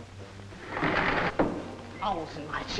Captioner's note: window sliding